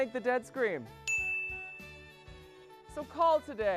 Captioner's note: chiming